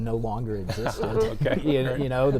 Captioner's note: laughter